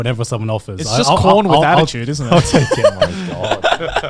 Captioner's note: laughing